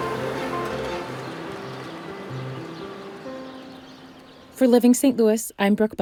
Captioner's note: bright music; birds tweeting